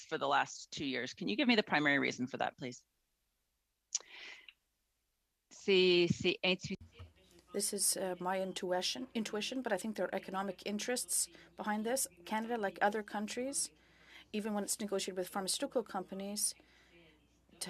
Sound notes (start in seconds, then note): 10.2 speaking French